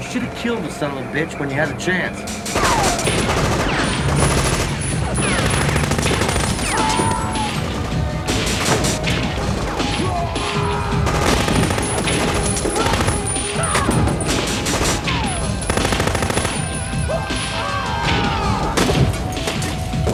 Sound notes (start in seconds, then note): 2.9 guns firing; 6.7 man screams; 11.4 guns firing; 13.1 man screams; 15.1 guns firing; 17.0 man screams